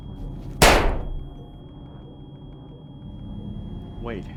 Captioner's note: gunshot